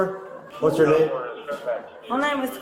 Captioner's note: radio chatter